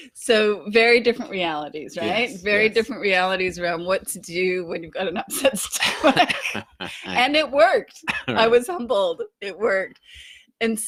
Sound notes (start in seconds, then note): 5.8 both laughing